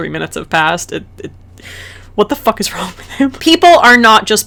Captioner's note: breathy, adoring exasperation